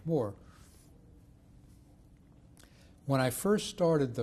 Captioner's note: pauses for 3 seconds